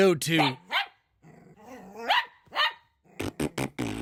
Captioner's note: dog Barking